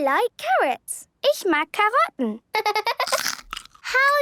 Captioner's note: laughter